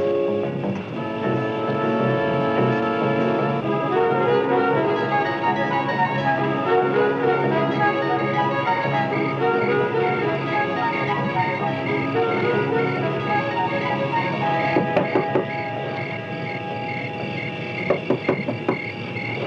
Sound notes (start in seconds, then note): 8.3 insects chirping; 14.7 Senator knocks